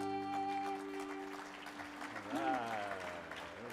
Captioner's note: audience applauds